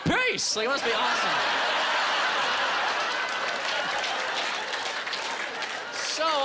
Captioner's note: applause